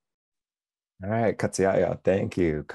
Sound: speaking foreign language

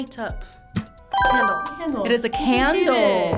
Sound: buzzer chimes

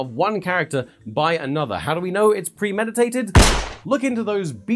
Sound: gunshot

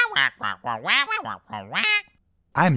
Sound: annoyed squawking

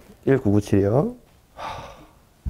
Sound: deep sigh

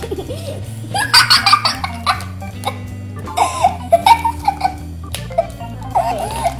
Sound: giggling

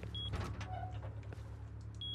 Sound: door creaks

